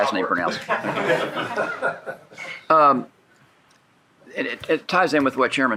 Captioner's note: shared laughing